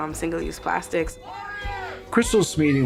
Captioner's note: chanting